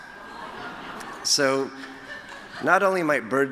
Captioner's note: laughter